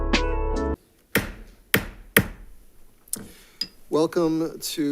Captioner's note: gavel banging